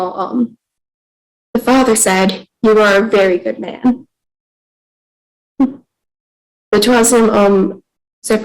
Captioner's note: speaking in French